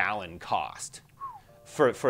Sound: whistles

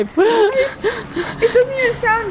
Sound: laughing

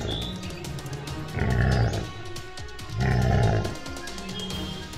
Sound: lion growls!

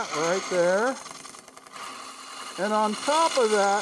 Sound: wood lathe chattering

